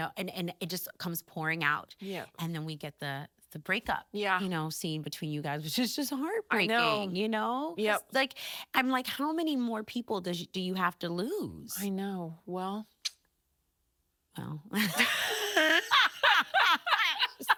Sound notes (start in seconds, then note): 13.0 clicking tongue; 14.8 both laughing